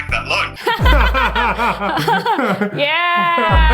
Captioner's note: laughing